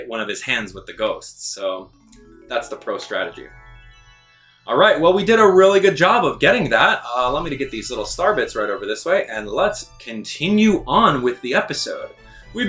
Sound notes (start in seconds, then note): 2.0 star chiming